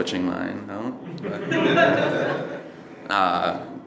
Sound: audience laughing

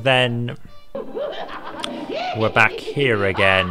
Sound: guffawing

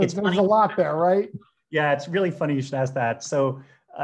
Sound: laughing

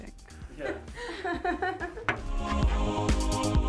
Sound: woman laughing; upbeat music

